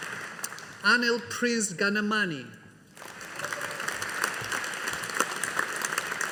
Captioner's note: audience applauding